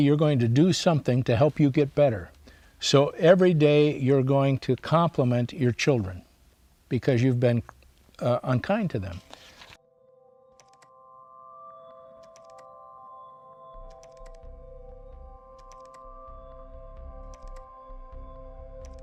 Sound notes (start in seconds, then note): 9.8 instrumental music plays; 15.5 keyboard clicking